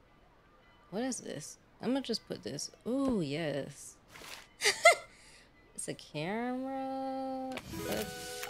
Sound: laughs

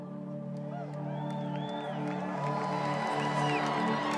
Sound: audience cheering

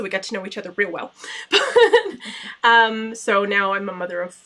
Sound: laughter

